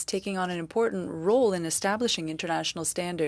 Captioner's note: speaking French